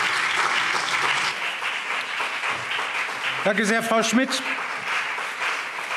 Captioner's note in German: Lebhafter Beifall BÜNDNIS 90/DIE GRÜNEN und CDU